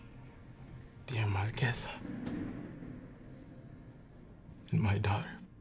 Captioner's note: thunder rubmling